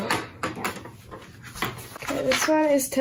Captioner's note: learning material bumping